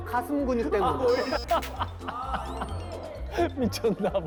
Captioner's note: can't help but laugh